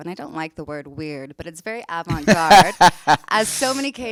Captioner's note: laughs